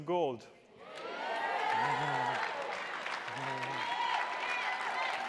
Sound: attendees applauding

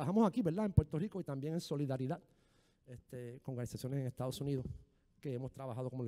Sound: speaking in foreign language

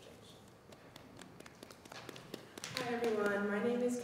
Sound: audience applauding

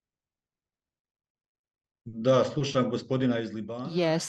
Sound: non-english speech

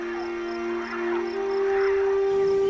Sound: birds squawking

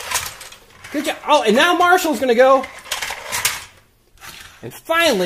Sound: none

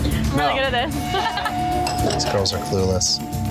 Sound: laughs

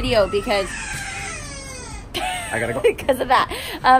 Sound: child cries; laughs

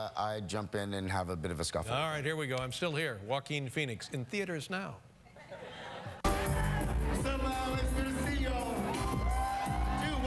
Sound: laughter

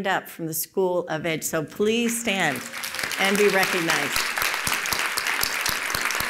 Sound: applause

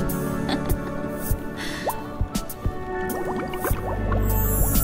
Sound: laughs

